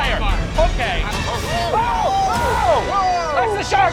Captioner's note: scream